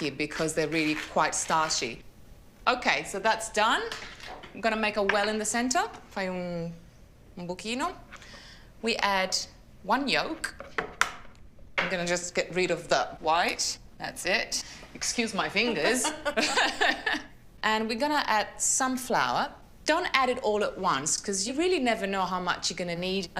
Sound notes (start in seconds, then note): 6.3 speaks Italian; 15.4 laughs